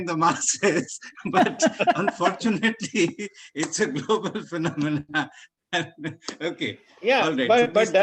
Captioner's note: laughter